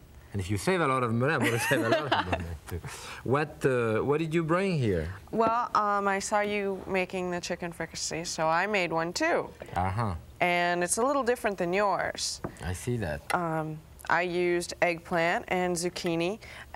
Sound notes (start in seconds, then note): 1.4 laughing